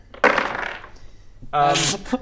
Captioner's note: sad crash